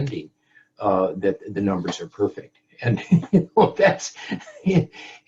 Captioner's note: laughs